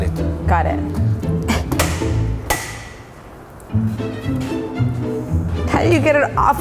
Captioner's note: playful music; clanging